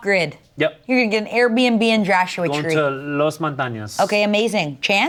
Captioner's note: speaks Spanish